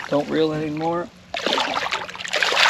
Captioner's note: fish splashing